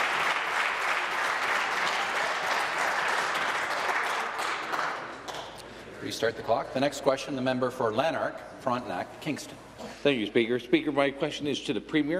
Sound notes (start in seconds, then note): 0.0 applause